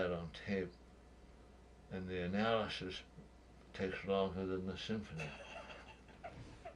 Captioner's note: laughs